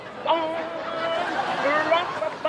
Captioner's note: audience laughs